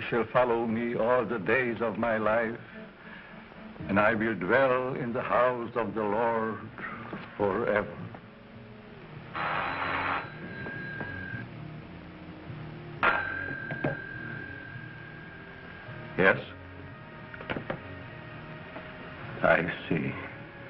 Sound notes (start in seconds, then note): 9.3 phone ringing